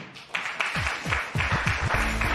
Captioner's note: applause